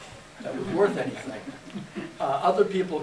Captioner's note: laughter